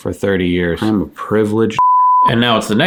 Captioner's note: beep